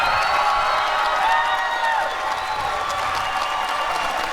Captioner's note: applause and cheering